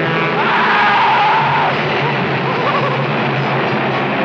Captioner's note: Seymour screams